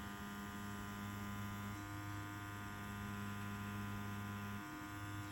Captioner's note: machine buzzes softly